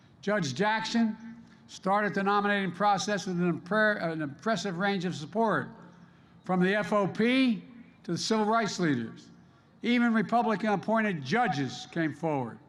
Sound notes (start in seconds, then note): none